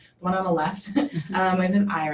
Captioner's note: laughter